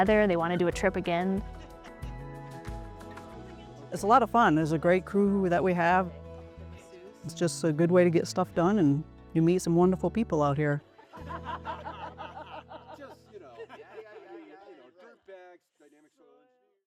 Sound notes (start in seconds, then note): 12.9 chatter